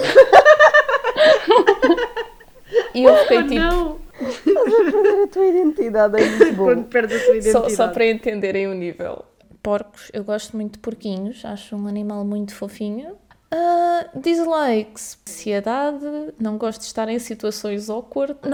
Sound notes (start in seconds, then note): 0.0 laughs; 6.2 laughs continue